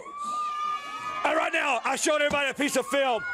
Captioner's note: crowd cheering